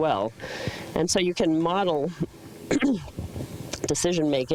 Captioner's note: clears throat